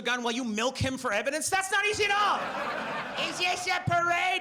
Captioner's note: audience laughs